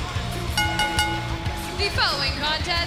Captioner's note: bell ringing